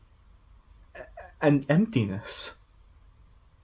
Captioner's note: stammering